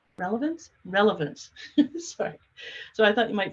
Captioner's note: laughs